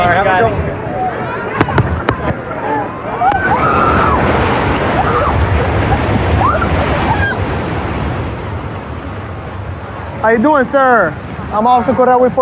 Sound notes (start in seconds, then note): 3.2 excititeded scrcreaeam